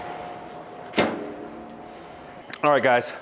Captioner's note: lid clanging